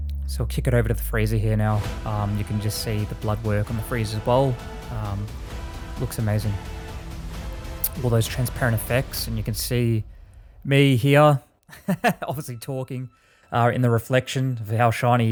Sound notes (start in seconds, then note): 11.7 laughing